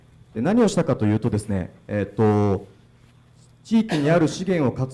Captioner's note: speaking foreign language